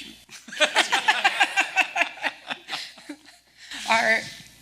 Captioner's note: laughing